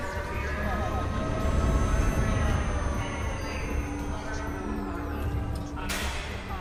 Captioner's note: constant whirring of alarm siren in the distance